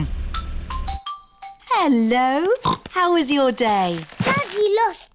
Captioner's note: oinks